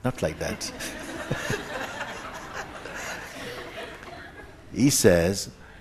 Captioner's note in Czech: smích